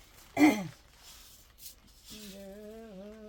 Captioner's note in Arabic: تنحنُح